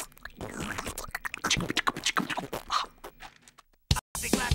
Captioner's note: clicking and popping